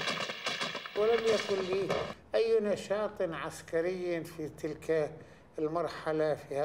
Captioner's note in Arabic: العربية، اللغة المنطوقة